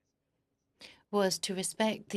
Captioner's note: speaking French